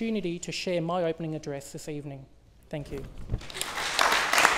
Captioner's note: applause